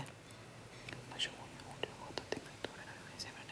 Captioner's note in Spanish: Susurra